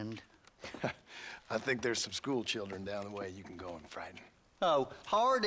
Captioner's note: laugh